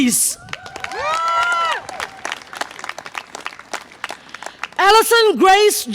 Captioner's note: audience applause and cheer